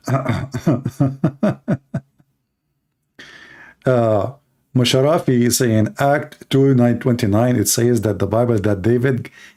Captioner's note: Ketawa